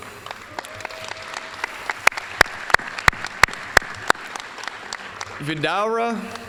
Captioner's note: applause